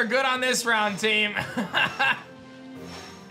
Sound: laughs

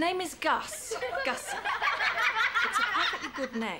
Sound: children laughing

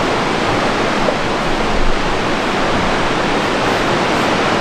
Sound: water rushing

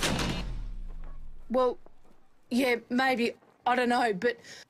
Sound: stammering

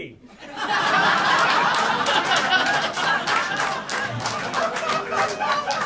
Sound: audience laughing

